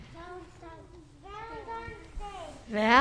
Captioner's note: young voices